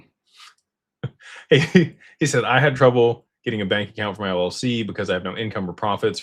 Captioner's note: laughter